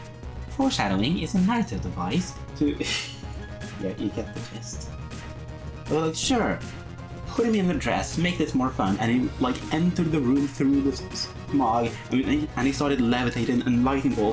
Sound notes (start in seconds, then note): 3.5 laughs